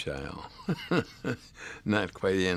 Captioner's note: laughs